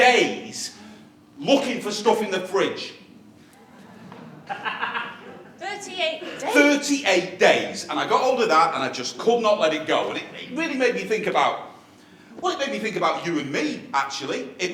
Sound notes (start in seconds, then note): 3.5 laughter